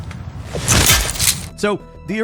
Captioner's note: lock clanking